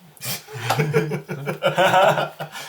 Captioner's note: all laugh